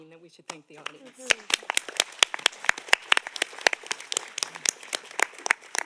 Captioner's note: audience applauding